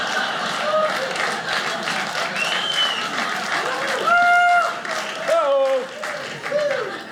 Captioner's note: audience laughing; audience cheering